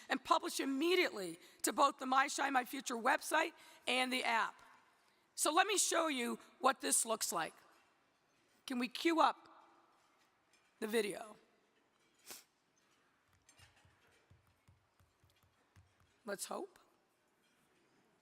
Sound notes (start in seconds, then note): none